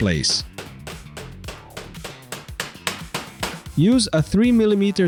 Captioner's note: hammering noise